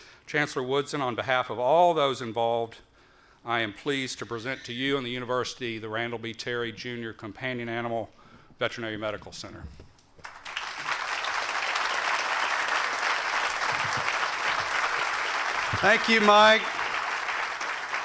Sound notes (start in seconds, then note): 10.2 applause